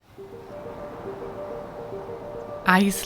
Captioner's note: gentle music; wind howling